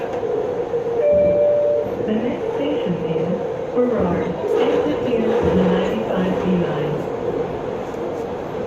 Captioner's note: Skytrain Ding Chime